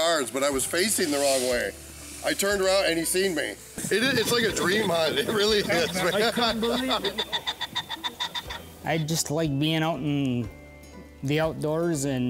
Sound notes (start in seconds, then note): 7.4 birds quacking